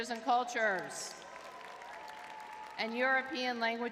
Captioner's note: crowd cheering